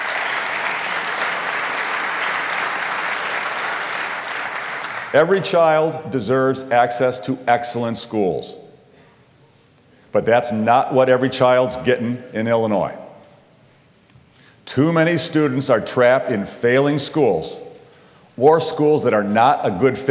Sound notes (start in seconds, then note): 0.0 applause